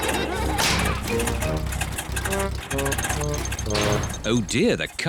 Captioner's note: all laugh; engine sputters